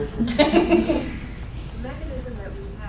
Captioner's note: laughing